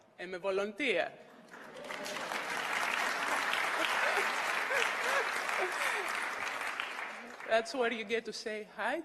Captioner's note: applause